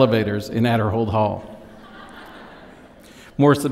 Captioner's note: laughter